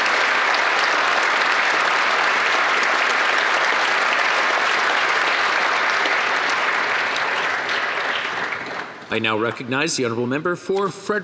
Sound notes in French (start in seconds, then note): 1.9 applaudissements